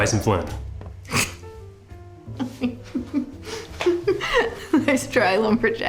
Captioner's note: drucinda laughing